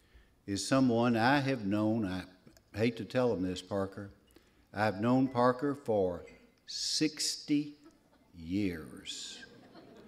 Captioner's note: laughter